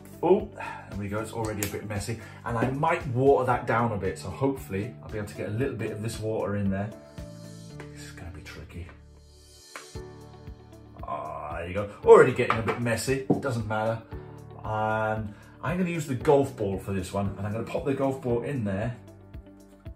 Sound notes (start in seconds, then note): none